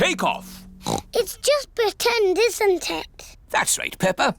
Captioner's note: oinks